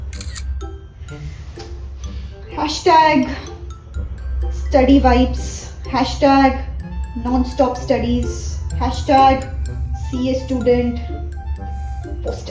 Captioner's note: typing